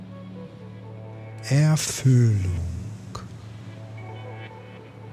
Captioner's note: german